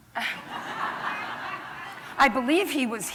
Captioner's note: laughter